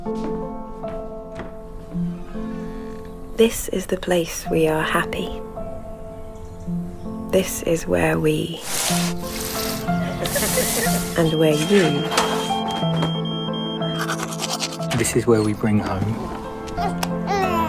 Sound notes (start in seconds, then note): 0.1 calm music; 10.4 hose spraying; 10.8 alarm beeping; 14.0 brushing teeth; 16.6 baby crying